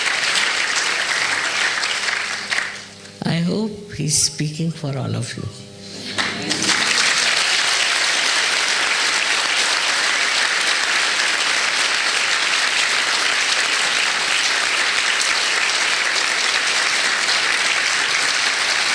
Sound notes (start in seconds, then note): 7.7 more applause